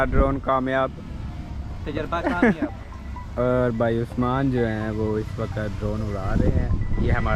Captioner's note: laughing